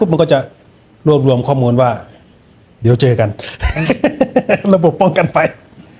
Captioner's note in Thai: เสียงหัวเราะ